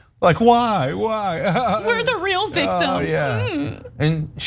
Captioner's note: laugh